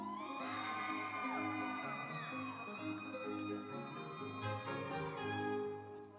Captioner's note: audience cheering; instrumental music